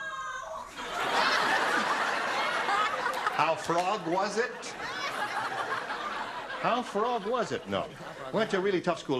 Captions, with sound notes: [GROANS] [LAUGHTER] HOW FROG WAS IT? [LAUGHTER] HOW FROG WAS IT? NO.